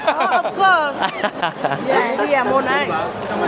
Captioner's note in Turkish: kahkaha